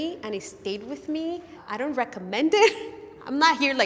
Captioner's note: none